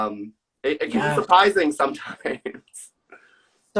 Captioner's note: laughs